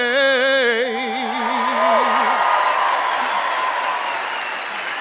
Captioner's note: applause